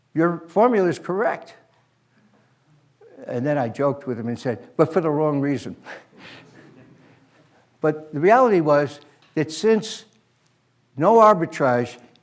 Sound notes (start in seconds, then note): 6.4 laughter